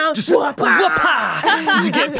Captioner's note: laughs